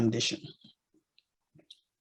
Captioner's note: silence